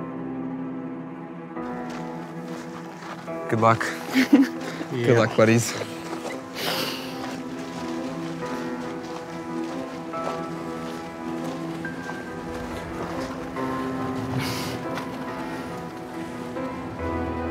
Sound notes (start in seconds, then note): 0.2 suspenseful music; 4.1 chuckles; 8.4 suspenseful music; 10.4 footsteps creaking